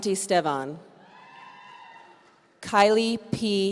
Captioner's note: audience cheering